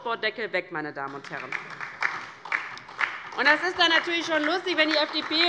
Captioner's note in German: Beifall DIE LINKE und vereinzelt SPD